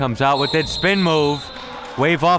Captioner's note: whistle blowing